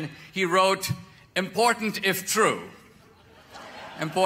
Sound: audience laughter

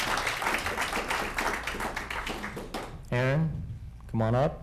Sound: applauding

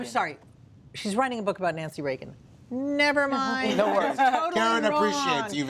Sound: laughter

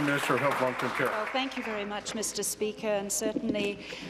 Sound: applause

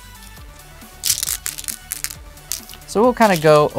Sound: stones clattering

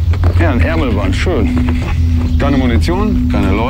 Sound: birds, a babble of voices

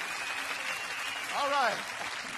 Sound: audience cheering

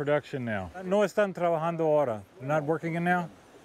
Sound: speaking Spanish

